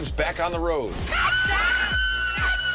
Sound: screaming

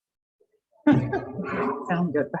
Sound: laughs

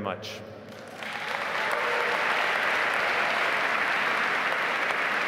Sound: audience applauding

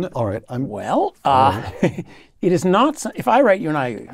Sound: laugh

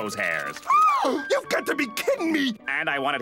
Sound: gasps

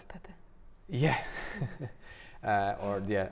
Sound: chuckles

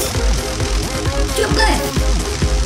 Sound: crackling electricity

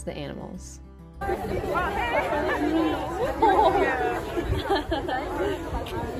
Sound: crowd chattering and laughing

